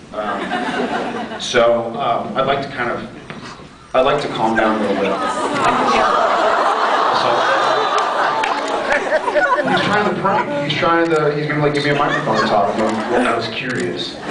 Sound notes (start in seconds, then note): 0.3 scattered laughs; 4.5 laughs; 4.9 scattered laughs; 7.8 laughs